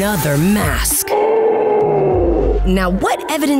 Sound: gasping

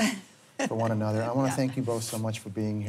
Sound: chuckles

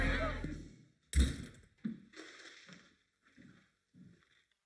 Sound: door shuts

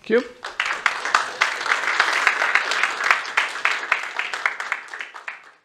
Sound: applause

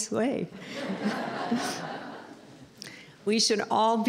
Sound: laughter

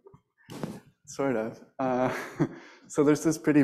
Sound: laughs

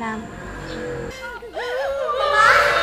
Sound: crying

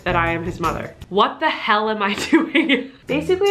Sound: laughs

